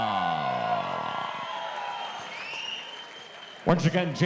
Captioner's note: audience cheering